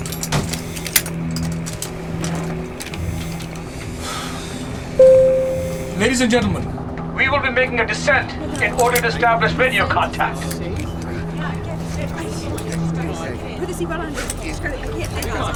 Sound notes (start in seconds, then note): 0.1 seatbelt clicks; 4.0 exhale; 5.0 ding; 12.5 chatter